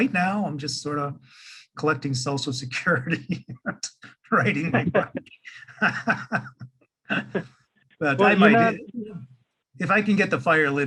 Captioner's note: laughing